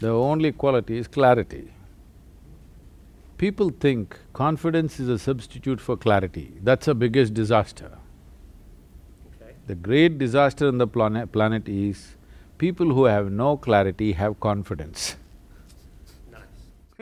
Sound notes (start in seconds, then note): 15.0 laughs